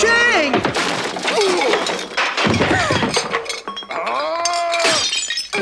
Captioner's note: cutlery clattering